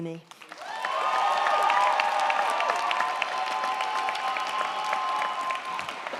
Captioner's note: crowd clapping; crowd cheering